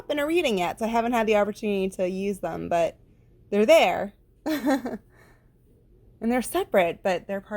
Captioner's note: haha